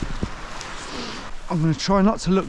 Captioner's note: sniffs